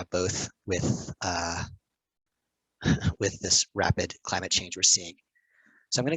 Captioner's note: chuckles